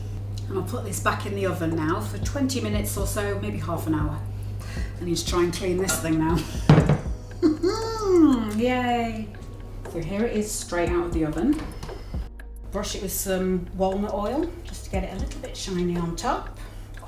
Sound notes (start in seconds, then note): 8.8 sarcastic